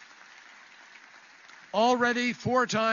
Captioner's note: applause